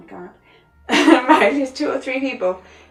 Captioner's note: laughs